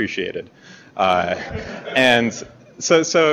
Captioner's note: laughter